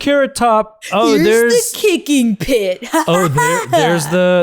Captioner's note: mimics laughter